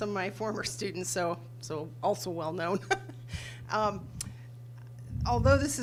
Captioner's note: laughs